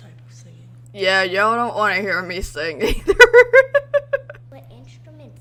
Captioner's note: laughs